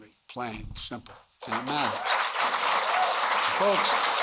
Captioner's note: applause